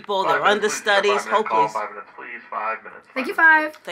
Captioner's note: PA System